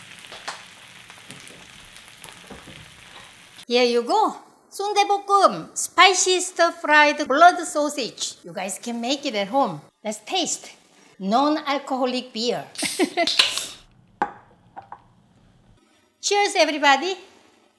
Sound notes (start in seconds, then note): 13.6 laughs